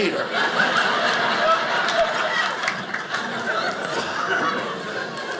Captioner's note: audience laughing